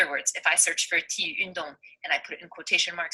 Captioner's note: foreign language